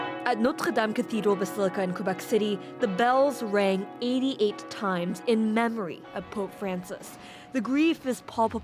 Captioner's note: bells tolling